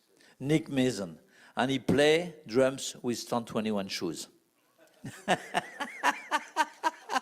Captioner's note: laugh